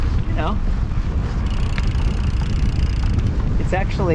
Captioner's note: riding bicycle